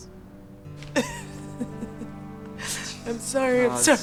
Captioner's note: chuckles